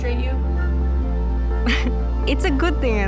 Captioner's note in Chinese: 笑聲